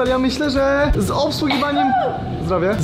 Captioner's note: sneezes